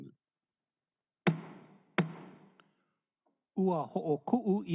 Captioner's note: gavel bangs twice